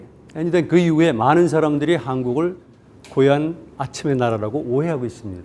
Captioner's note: speaking in Korean